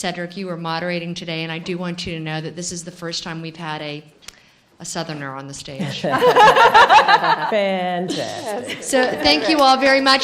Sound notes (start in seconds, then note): 5.8 laughing